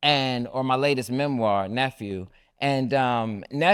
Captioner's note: none